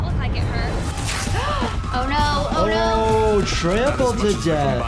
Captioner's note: gasps